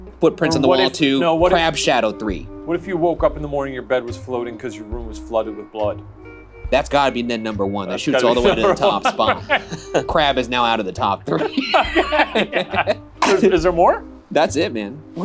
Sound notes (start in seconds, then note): 7.9 laughs; 11.3 laugh